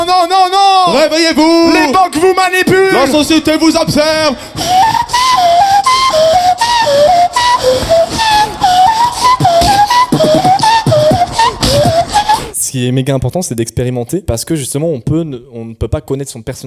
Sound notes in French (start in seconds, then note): 4.5 beatbox